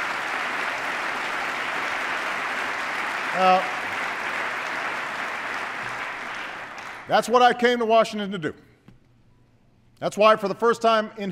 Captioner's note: applause